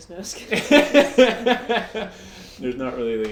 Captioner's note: both laugh